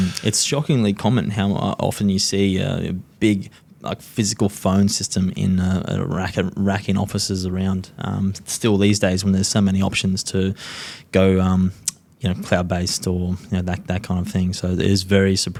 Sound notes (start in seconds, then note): none